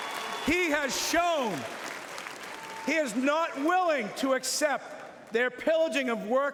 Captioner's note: cheering and Applause